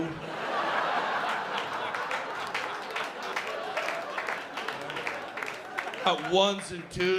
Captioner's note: laughter